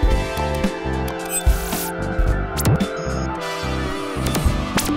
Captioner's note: synthetic music; electronic beeping